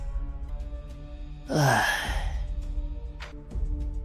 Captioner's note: sigh